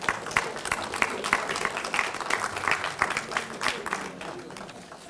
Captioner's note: audience laughing; audience applauding